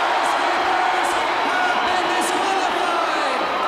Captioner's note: crowd cheering